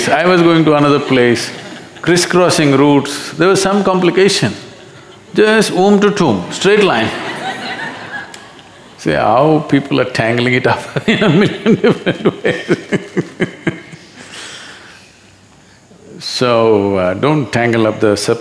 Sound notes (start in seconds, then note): 6.8 laughter; 14.0 laughs